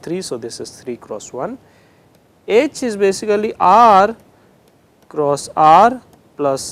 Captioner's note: interference